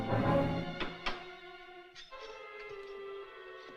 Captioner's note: metal Clanking